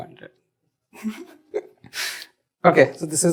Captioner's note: laughs